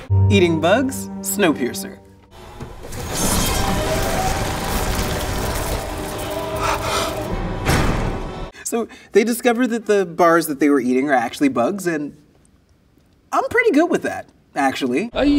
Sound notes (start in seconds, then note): 3.3 water sloshing